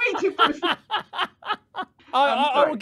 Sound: laughing

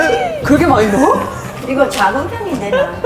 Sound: shock

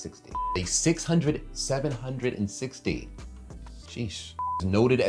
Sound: beep; beep

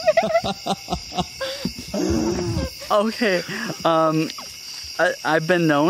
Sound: laughs

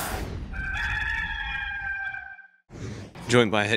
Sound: crowing

